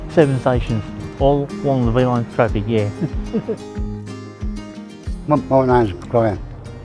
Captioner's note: chuckles